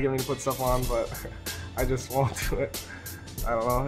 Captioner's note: laughs